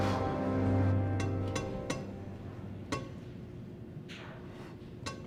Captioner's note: Max blows; fingers tapping